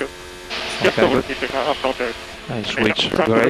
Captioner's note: feedback